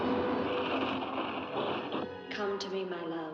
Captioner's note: suspenseful music; wheel squeaks; water rushes; suspenseful music